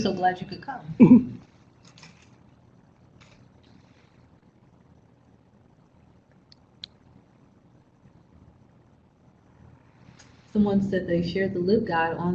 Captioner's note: silence